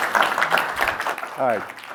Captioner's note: applause